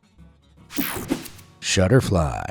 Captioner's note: air whooshing